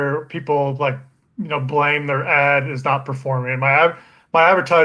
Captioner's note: murmurs